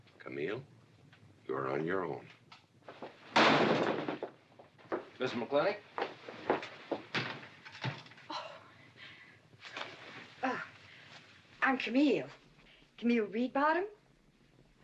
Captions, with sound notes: - Camille...you're on your own. (door slamming) - Mrs. McLintock. - I'm Camille... Camille Reedbottom.